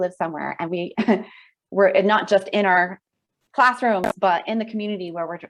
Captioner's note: chuckles